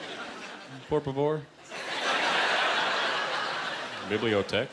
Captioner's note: laughter